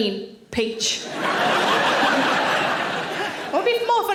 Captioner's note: audience laughing